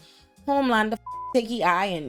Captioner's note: beep